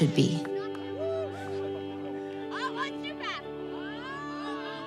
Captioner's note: yelling and laughing